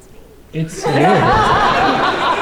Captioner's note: laughter